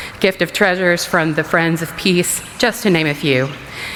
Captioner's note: none